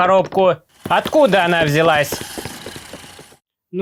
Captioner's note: footsteps; steps; vintage engine rattling